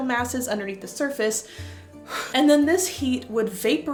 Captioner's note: deep breath